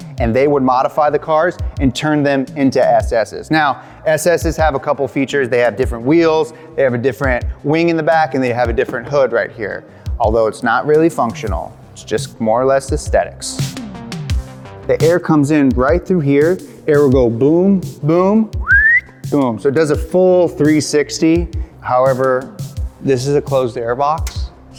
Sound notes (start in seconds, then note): 18.6 whistles